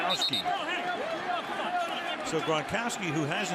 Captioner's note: onfield chatter